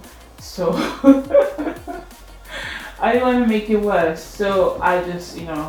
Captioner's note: laughs